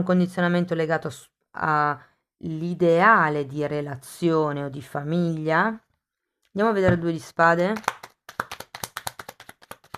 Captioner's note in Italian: Applauso